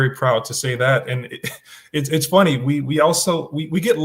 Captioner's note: chuckles